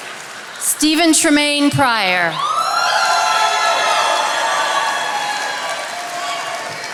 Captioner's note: attendees applauding